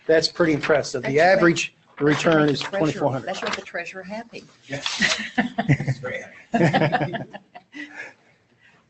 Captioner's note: laughter